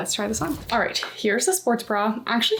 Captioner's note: graphic whooshing